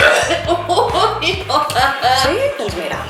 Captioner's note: she burps